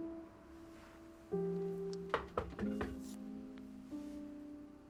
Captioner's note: door knocking